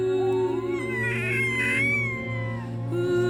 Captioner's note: crying